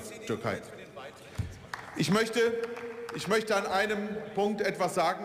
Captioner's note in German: Beifall